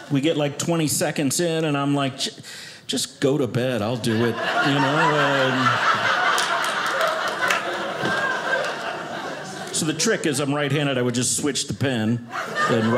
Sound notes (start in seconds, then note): 5.9 audience laughing